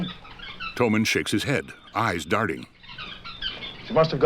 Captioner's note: chirping continues